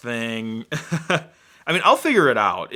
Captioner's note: laughs